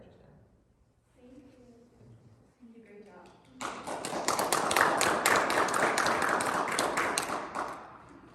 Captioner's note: clapping